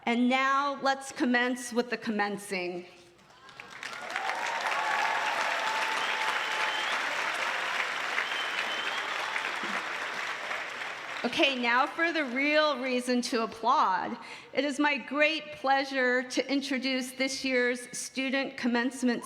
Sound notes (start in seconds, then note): 7.3 applause